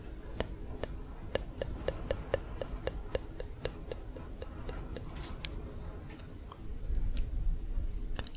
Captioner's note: tongue clicking